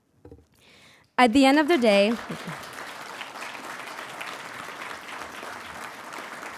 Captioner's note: audience applauding